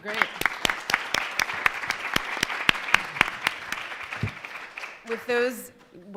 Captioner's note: audience applauding